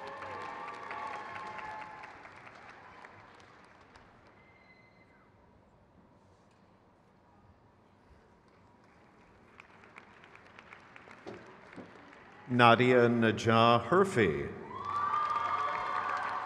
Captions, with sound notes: Alex J. Mercer. (crowd cheers)